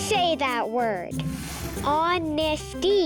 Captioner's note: air whooshing